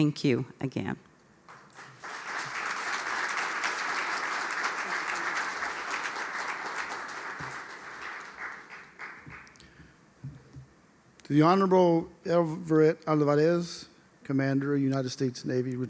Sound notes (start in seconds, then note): 5.9 applause